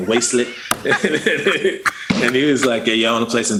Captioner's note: laughter